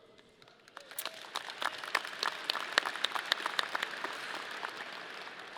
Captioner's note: audience applauding